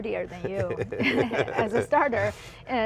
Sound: laughter

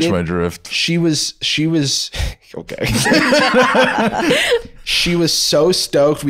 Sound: all laughing

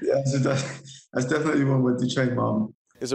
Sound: laughter

